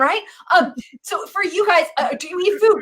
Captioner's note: laughs